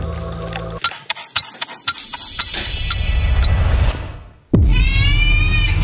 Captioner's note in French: tic-tac; pleurs de bébé